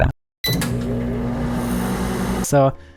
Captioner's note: microwave sound